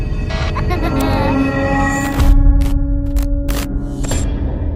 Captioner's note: child laughing